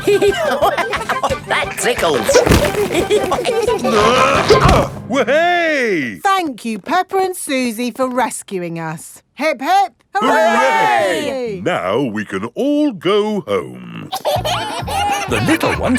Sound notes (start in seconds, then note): 0.0 laughing; 3.0 all giggling; 3.9 grunting; 14.0 kids giggling